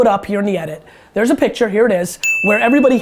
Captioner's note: bell dings